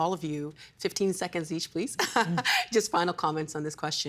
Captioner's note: laughing